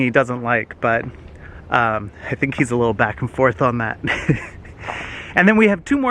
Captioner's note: laughs